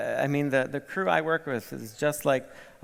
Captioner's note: none